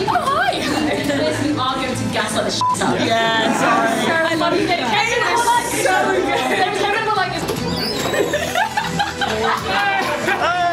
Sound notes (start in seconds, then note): 7.5 door opens, laughing; 9.2 cheering, applause